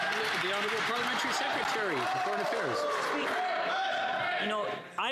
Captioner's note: some Applause